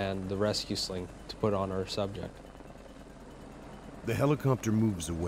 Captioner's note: voiceover